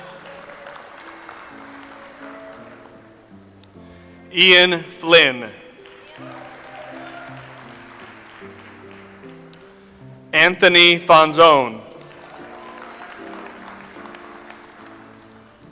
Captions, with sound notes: (audience applauds) Ian Flynn. (audience applauds) Anthony Fonzone. (audience applauds)